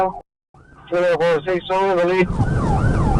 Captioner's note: radio chatter